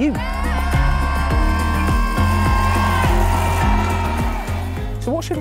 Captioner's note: shouting